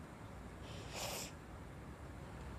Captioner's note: sniffles